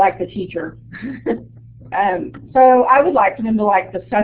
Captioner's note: chuckles